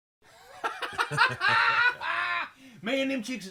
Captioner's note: laughing